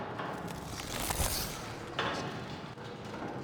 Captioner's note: loud crash